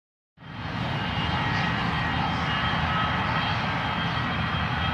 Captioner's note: plane engine roaring